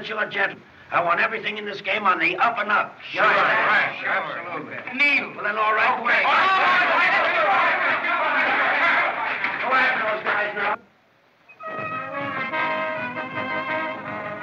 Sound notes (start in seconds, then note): 3.0 shouts Of Approval; 6.7 yelling, Shouting